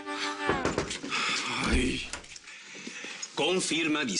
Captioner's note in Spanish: Toques en la puerta